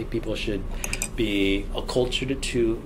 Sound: none

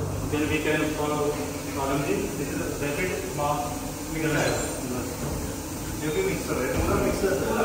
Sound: conversation in Hindi

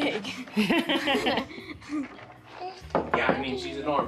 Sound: laughs

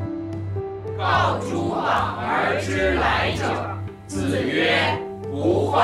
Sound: class speaking Chinese

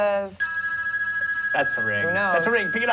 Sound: ring

